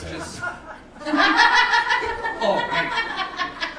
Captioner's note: audience laughing